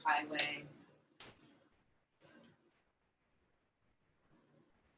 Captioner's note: silence